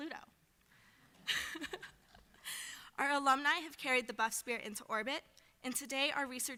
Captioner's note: laughs